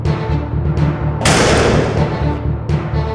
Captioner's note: door slams shut